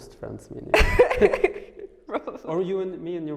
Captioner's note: laughing